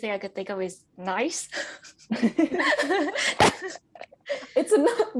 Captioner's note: overlapping laughter